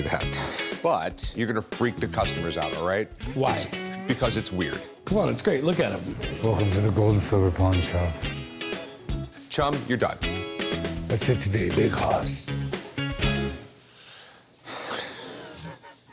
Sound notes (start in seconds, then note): 6.2 deep voice; 10.5 deep voice; 14.7 laughs